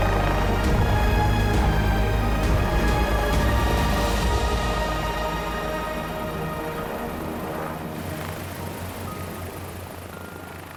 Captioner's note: helicopter blades whirring